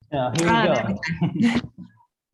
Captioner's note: laughter